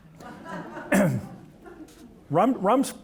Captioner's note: audience laughing